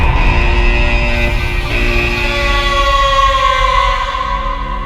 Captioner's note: sheep bleating; alarm buzzing rhythmically; sheep bleating; dark music continues